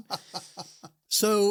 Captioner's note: laughs